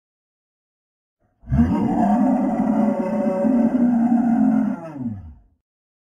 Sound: monster roar

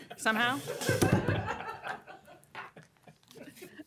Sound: laughter

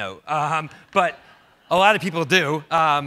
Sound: laughs; audience laughs

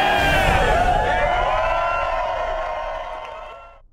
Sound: crowd cheering

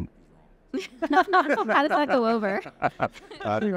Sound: all laughing

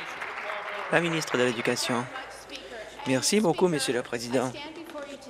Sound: applause

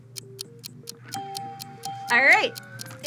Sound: bell rings

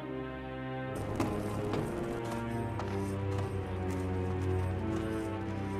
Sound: foot steps

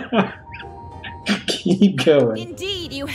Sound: laughs; continues laughing; as Musky laughs

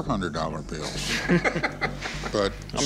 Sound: laughter

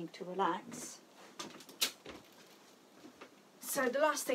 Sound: footsteps thudding

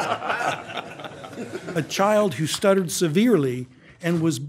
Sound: laughter

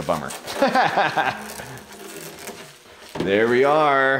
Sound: instructor laughs

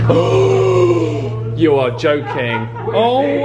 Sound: gasps

